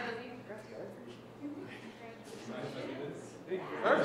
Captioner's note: group talking